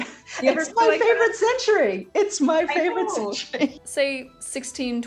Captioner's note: laughs